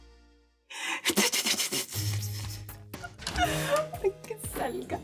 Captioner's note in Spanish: Hace ruido con la boca